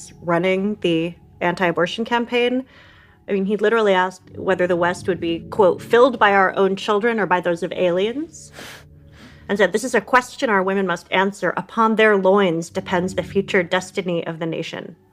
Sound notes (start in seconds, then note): 8.3 scoffs